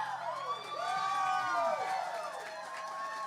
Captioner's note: applause